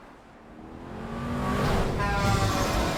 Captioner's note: car whooshes; car horns honk; cars rev